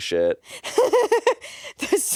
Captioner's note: laughs